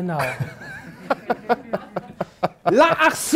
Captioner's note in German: Lachen